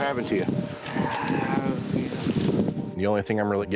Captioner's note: sighs, mumbling